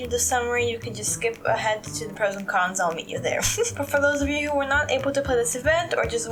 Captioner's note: laugh